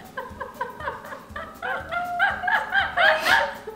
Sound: laughing

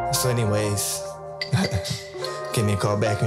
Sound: chuckles

